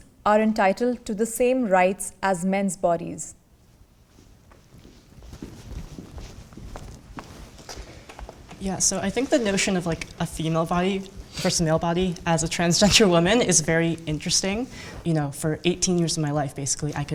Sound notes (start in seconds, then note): 4.7 footsteps